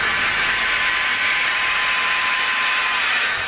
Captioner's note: train whistles